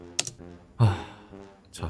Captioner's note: sigh